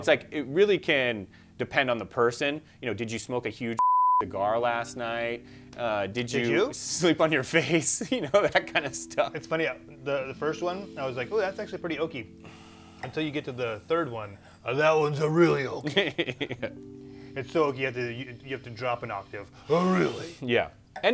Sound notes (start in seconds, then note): 3.8 beep